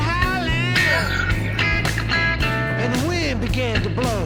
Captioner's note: sighs